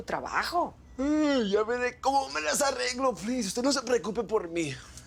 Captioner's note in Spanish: Bostezando